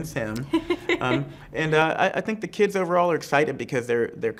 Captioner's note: laughs